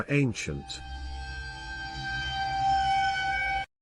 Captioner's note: eerie Sound